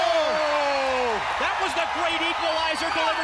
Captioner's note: crowd cheering